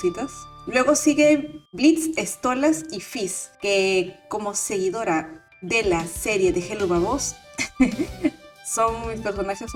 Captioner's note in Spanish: risas